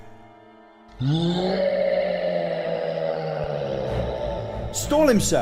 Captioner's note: roar